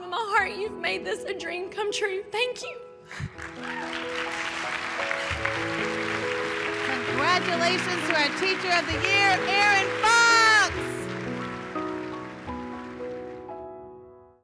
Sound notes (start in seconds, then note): 4.7 applause